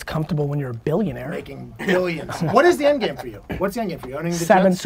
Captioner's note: pat